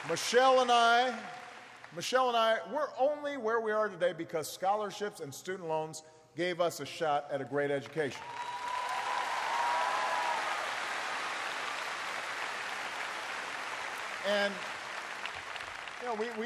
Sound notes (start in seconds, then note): 10.6 applause